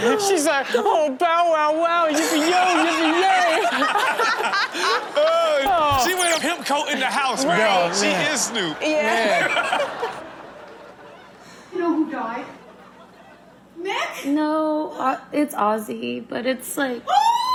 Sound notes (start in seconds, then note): 3.6 everyone laughs; 7.9 crowd laughs